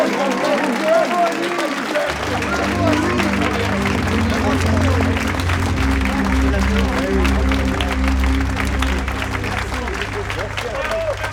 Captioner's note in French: aplaudissement